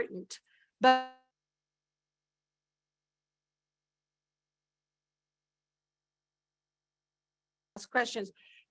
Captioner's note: no audio